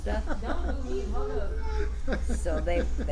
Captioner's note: laughs